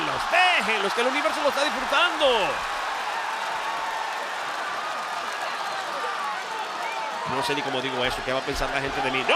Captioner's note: applause